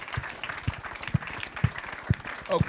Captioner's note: applause